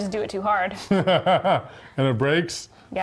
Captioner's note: laughs